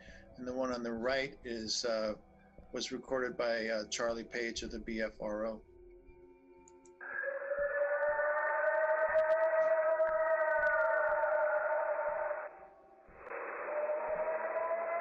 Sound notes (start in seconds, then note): 6.6 clicking; 7.0 howling